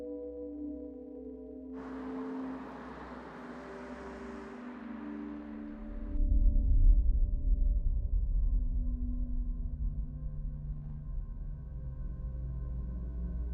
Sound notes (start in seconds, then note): 1.7 car passing; 6.0 soft distorted ominous tone